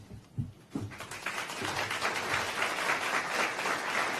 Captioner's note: applause